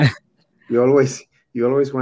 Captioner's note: speaks in foreign language